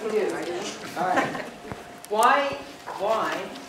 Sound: laugh

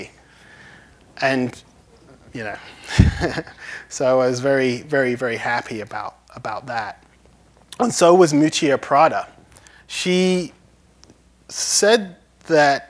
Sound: laughs

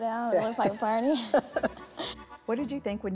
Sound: chuckling

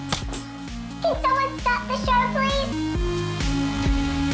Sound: high-pitched voice

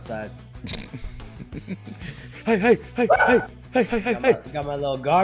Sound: laugh

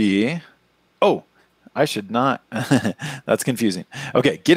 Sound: laughs

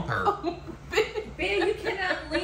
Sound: laughing

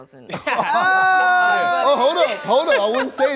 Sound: laughs

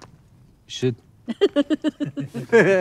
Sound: laughter

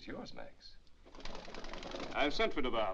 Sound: wings flapping

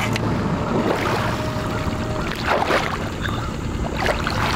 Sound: splashing

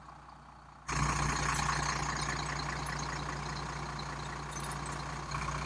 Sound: diesel engine running loudly

